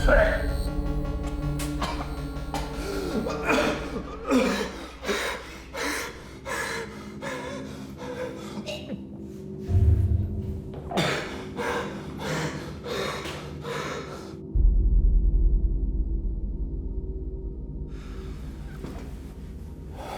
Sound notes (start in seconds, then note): 0.2 light dramatic music; 5.7 heavy breathing; 5.7 ominous music